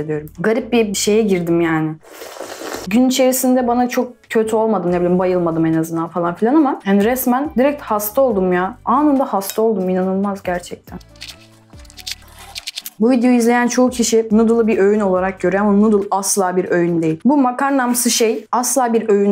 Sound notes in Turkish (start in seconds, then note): 10.9 Kahve içme sesi